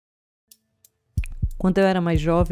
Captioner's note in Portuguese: Sons de relógio e coração batendo